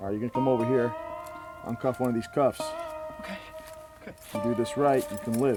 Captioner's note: walking